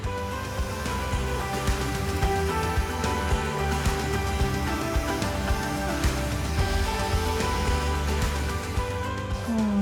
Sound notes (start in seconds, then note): 0.8 blower blows; 2.0 upbeat music